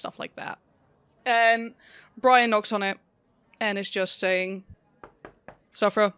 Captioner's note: knocking